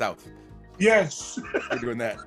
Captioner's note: laugh